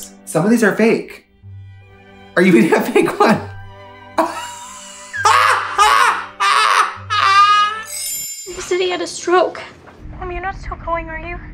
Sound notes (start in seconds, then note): 4.2 Trixie laughs